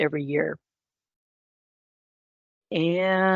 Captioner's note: silence